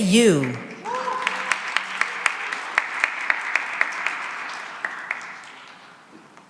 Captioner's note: cheering and applause